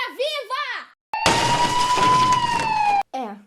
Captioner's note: broken glass and noise of police sirens